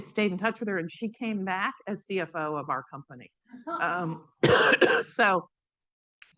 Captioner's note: coughs